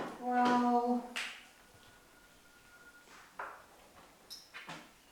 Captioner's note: speaks in foreign language